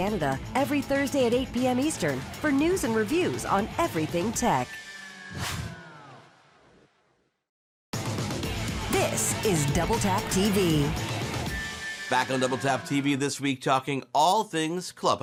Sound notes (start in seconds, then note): 5.3 air whooshing; 8.0 upbeat music